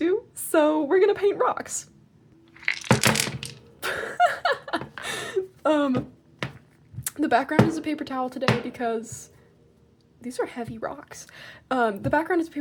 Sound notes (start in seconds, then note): 2.6 rocks crashing against table; 3.8 laughter